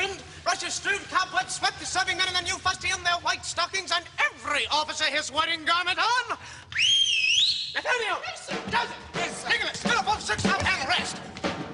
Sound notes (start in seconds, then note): 6.7 whistles